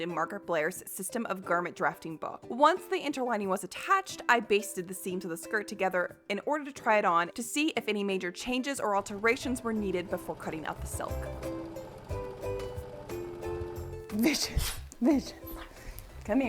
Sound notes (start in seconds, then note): 12.2 sewing machine whirring; 12.2 upbeat music